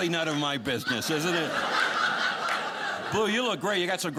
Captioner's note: audience laughing